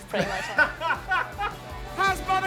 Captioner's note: laughs